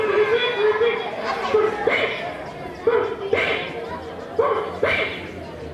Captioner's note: puppet sneezing